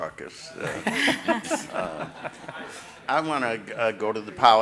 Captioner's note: everyone laughing